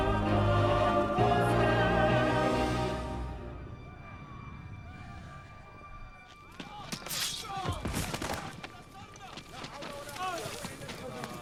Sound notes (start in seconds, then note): 4.1 men continue yelling in distance